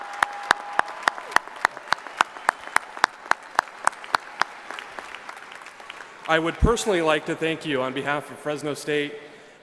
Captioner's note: applause